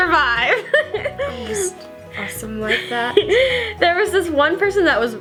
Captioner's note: laughs